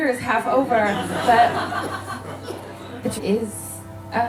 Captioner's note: audience laughing